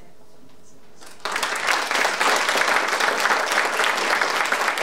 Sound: audience applauding

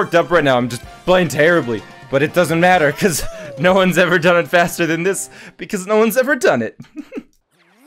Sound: laughs

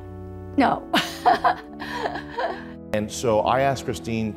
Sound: laughs

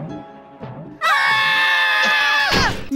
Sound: screaming

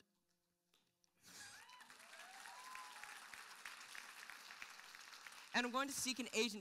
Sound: applause

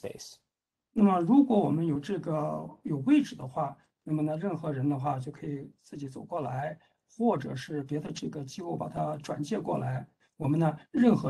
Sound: speaks in Mandarin

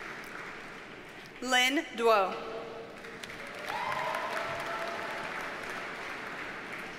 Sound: audience cheers and applauds

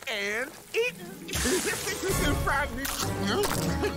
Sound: chuckles

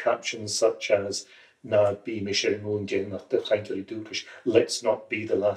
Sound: in irish

